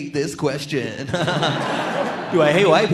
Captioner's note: all laughing